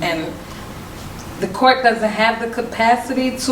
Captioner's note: none